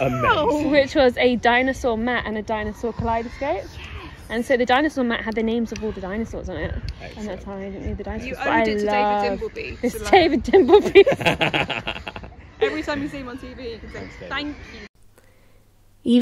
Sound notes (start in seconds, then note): 11.8 talking and laughing